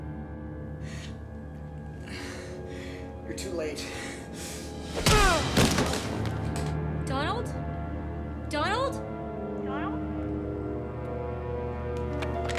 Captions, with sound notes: (tense music) You're too late. (Donald grunts) (body crashes) - Donald? Donald? Donald?